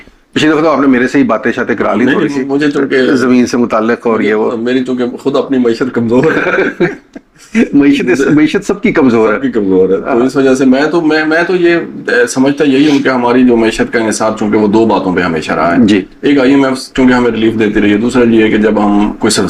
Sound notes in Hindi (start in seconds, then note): 6.1 हंसी